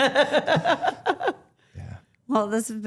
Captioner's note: Stephanie laughing; laughing